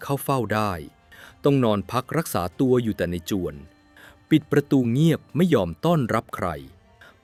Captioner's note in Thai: เสียงสูดหายใจ